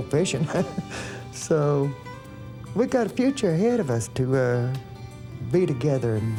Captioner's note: laughs